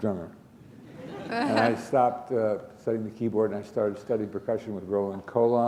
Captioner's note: chuckle